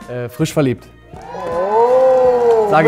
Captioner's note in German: Jubel